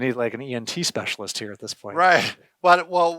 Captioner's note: laughs